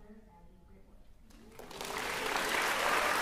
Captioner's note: applause; cheering